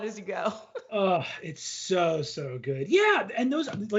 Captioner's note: laughs